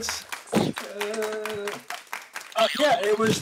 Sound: applause

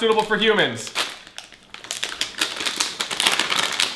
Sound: bag crinkling

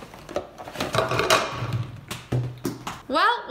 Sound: thumping

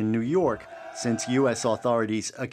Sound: speaking alternate language

